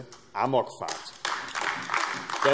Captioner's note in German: Beifall AfD